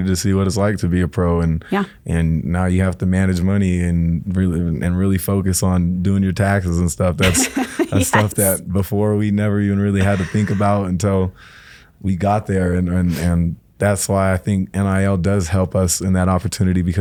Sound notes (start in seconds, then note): 7.2 laughs